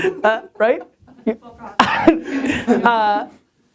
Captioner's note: voiceover; laughing